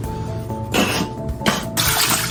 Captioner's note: raspberry blow; sink noises